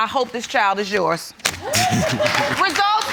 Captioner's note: applause